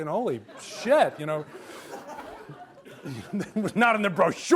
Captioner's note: audience laughs